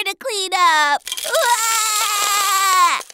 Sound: crying

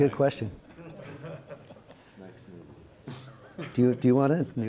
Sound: audience and panelists laughing

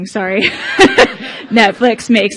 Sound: laughing

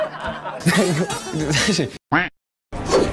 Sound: laughter malfunction; giggle

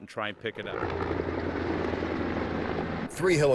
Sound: helicopter flying sound

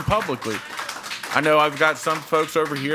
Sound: audience applauding

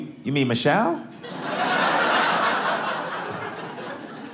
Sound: audience laughing

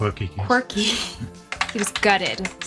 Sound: laughs

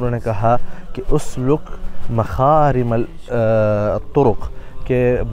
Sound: Arabic

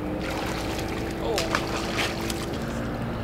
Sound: fish falls

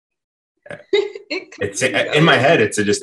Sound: laughs

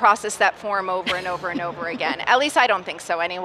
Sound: laughs

